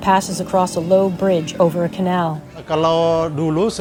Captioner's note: faint traffic noises